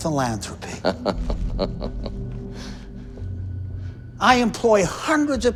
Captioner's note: Chuck laughs